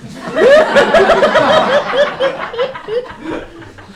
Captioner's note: audience laughs